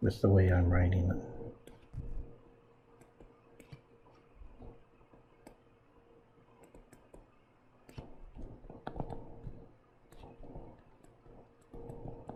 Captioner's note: writing Sounds